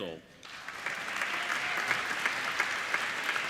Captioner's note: applauding